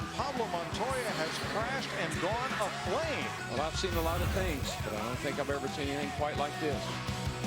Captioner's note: radio